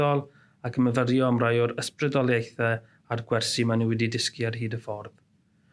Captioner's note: in Welsh